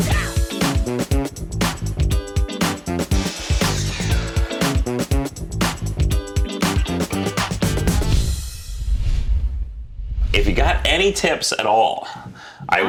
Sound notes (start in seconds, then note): 0.1 upbeat music; 3.4 power saw whirring